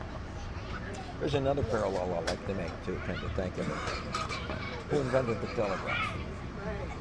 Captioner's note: laughs